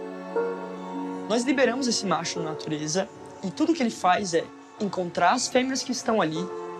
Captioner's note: speaks in foreign language